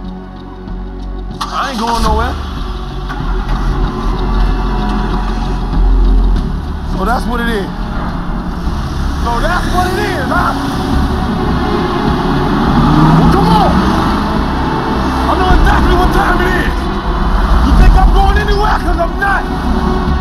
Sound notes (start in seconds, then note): 1.3 engine turning over; 2.9 engines turning over